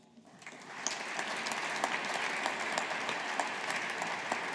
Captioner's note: audience applauding